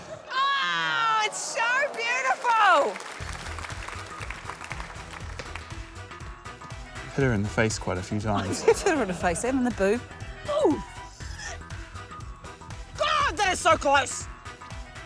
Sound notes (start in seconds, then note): 1.2 applause; 10.7 grunts